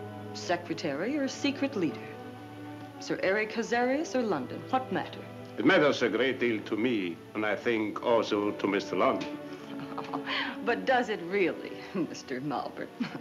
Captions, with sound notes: - Secretary or secret l, Sir Eric Hazarias or Lo, what matter? - It matters a great de, and I think also to Mr.. (laughs) - But does it really, M?